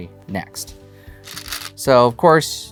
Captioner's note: stones rattling